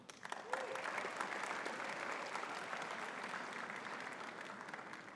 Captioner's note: audience cheering and clapping